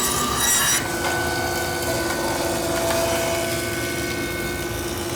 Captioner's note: tool squealing